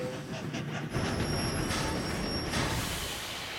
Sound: train approaching

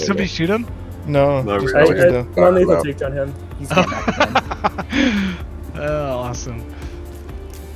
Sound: laugh

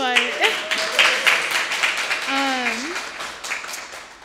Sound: audience applauding

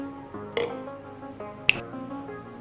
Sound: snaps

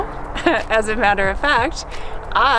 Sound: laughs

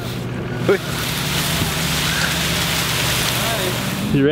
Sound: grass falling

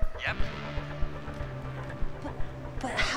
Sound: whispering

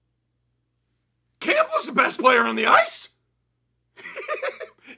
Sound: laughter

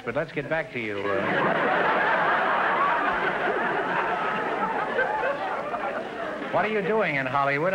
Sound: audience laughter

